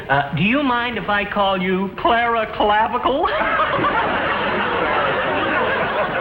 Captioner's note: laughs; audience laughs